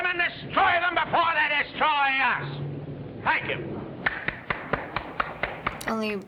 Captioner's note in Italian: uomini applaudono